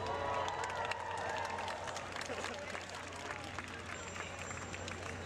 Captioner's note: applause